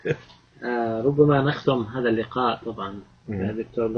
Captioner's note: speaking Arabic